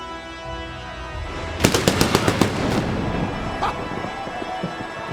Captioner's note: lightning crackling